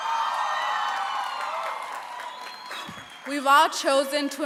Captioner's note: applause